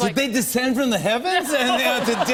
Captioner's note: laughter